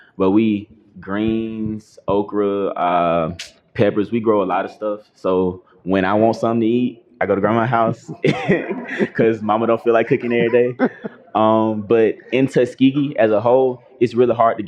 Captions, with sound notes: But we eat greens okra, peppers. We grow a lot of stuff, so when I want something to eat, I go to Grandma's house [laughter] because Mama don't feel like cooking everyday. But in Tuskegee, as a whole, it's really hard